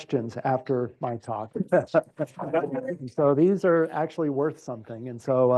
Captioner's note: laugh